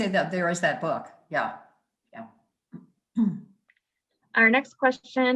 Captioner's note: clears throat